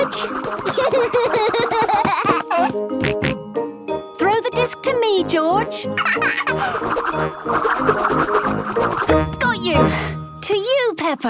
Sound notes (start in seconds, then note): 0.6 giggling; 1.9 snorting; 6.0 laughing